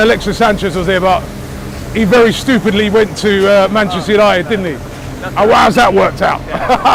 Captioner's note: laughter